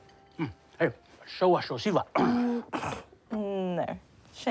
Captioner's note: clears throat